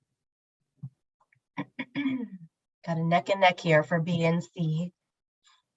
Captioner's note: clears throat